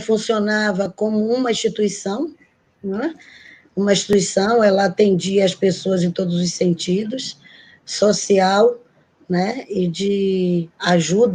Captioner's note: speaking Portuguese